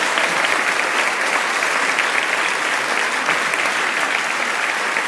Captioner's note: applause